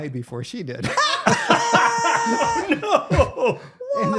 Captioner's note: both laughing